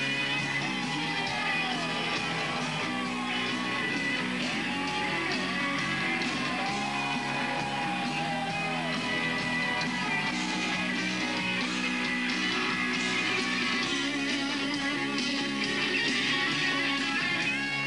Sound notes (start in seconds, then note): 0.8 audience cheering